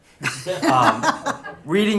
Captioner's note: laughter